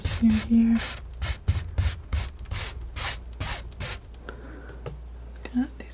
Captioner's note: scratching